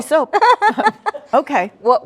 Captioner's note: laughs